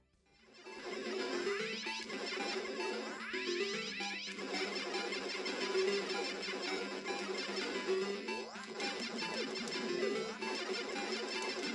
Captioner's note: intense Pew Pew Noises